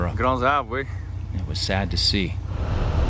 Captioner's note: speaking French